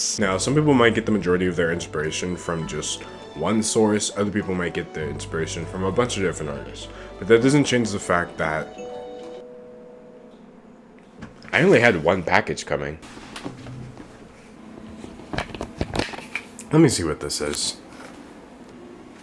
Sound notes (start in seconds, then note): 8.6 doorbell rings